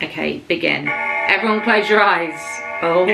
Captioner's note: spooky sounds